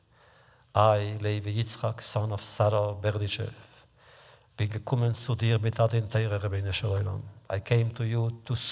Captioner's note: Yiddish